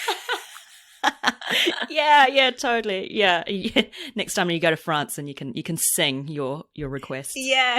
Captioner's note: laughs